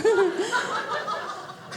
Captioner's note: audience laughing